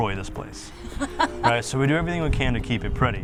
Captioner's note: laughing